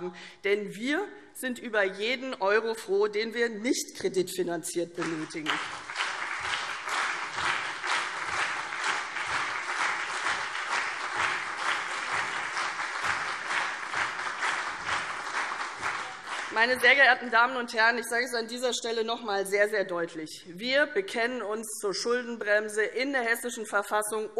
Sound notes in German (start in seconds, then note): 5.0 Beifall CDU und BÜNDNIS 90/DIE GRÜNEN